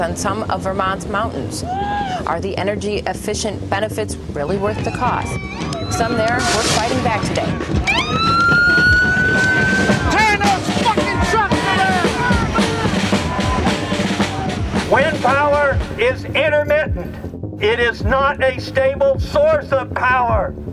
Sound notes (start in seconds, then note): 7.5 police sirens; 12.4 protesters yelling